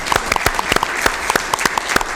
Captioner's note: applause